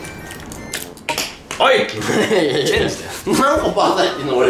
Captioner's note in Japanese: 笑いながら